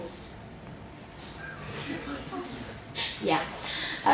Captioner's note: audience laughter